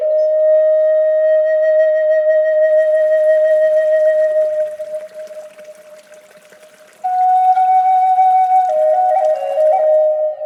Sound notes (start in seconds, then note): 2.7 sounds of running water